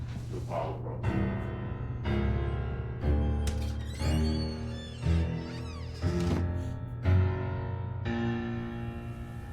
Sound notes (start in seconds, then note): 1.1 dramatic music; 2.9 door squeaking